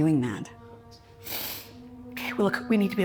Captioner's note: Rachel inhales